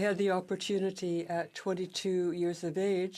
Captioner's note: speaking French